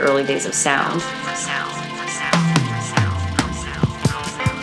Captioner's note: space echo